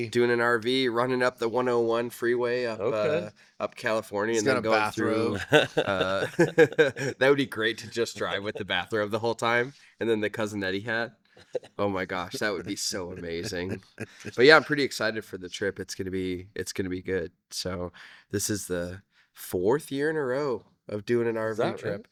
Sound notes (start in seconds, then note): 6.6 laughing